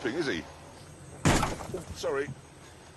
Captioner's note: crashing